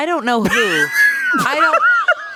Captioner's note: laughs